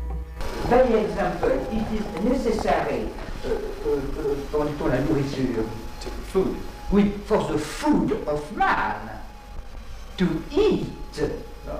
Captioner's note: animals